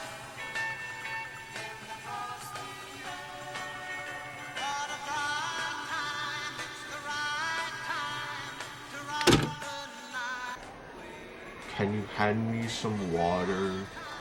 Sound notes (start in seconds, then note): 9.2 Walkman stops